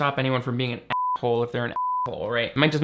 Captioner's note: beep